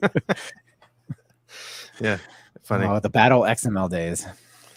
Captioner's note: both laughing